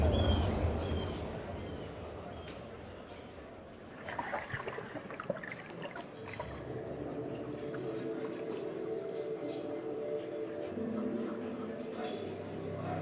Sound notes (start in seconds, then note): 3.8 water sounds